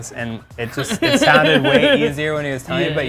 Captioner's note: laughs